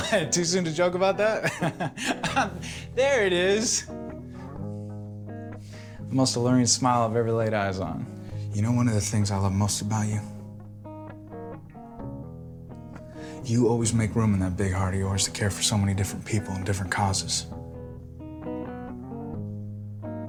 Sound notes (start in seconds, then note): 1.2 laughing